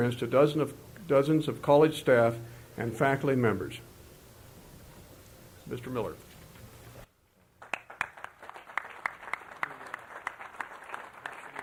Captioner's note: applause